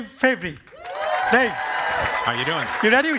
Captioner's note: cheering and applause